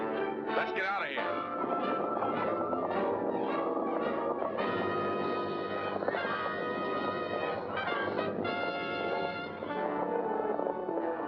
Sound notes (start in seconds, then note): 0.0 tense music; 1.9 dramatic music; 1.9 hooves pounding; 10.7 dramatic music